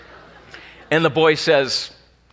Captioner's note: laughing